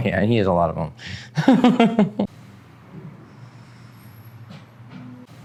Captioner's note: laughs